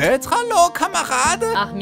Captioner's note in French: Armin *accent allemand très prononcé